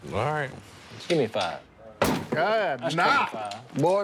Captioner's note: exclaiming